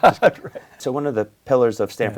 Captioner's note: laughs